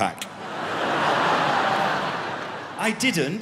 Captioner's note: crowd laughing